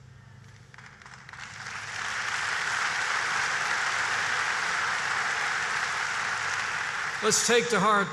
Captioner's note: applause